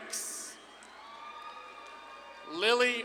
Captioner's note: audience claps and cheers